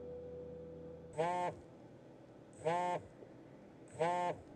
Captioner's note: phone vibrates; phone vibrates